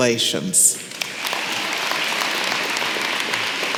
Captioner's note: applause